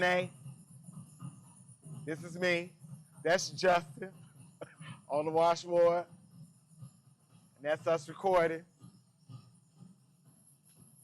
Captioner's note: laughs